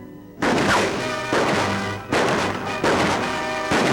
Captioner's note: gun shots